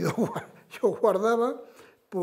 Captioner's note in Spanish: Ríe